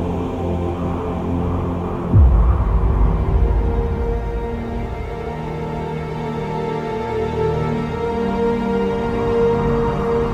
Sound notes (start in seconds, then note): 2.0 wind howling; 7.4 dramatic music